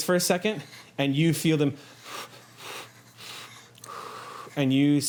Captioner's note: panting